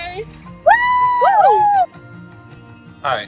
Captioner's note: cheering